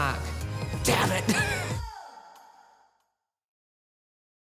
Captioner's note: laughing